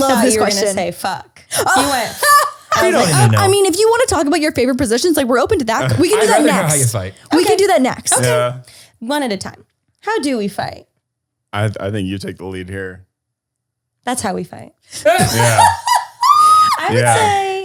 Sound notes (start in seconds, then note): 1.6 laughter; 15.0 laughter